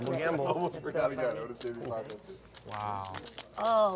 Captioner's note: chatter